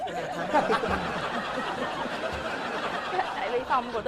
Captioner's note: giggling